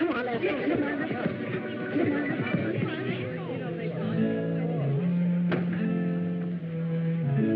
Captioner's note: chatter